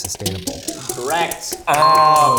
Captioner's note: bell rings